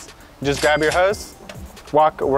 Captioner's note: cash register rings